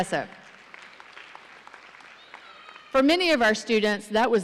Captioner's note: audience applauding